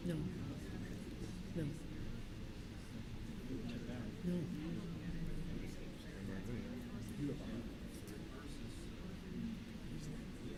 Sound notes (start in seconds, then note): none